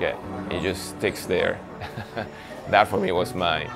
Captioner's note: laughs